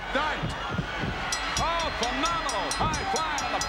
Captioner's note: bell rings